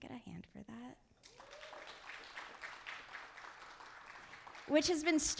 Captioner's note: audience applauding